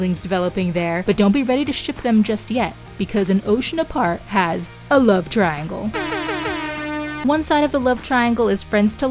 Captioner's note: air air air hoooooorn